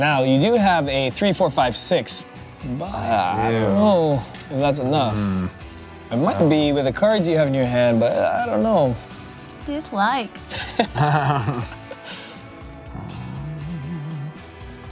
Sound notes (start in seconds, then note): 10.5 laughs